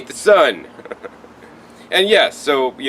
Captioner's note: laughs